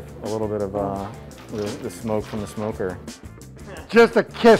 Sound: shells rattle

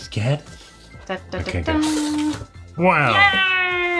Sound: trills

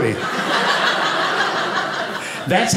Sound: audience laughing

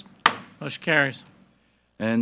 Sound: gavel bangs

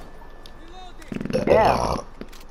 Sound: farting and burping

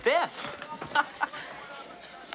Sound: Cameron laughs

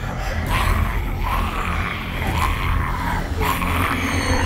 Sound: male zombie moaning

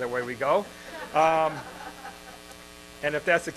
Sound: laughter in crowd

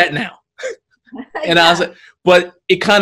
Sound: chuckles

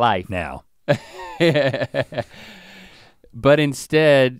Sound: Link chuckles

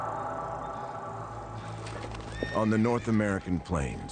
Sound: horse hooves clopping

